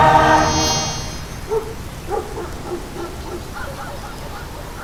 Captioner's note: dog barks; more dogs bark